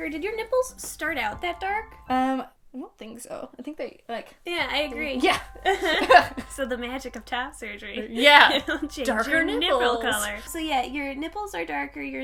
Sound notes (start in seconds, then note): 5.2 laughing